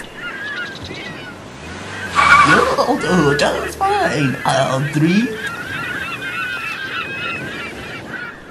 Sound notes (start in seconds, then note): 0.8 car Revving; 5.6 seagulls Cawing